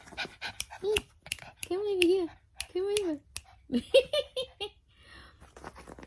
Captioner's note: clicking continues; dog pants; more clicking; laughs